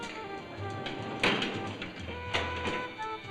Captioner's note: jazz beat; elevator doors banging; jazz beat